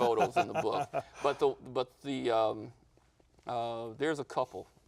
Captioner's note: laughter